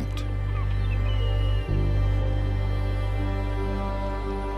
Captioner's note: birds chirping